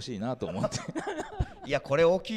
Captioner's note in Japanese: 会場から笑い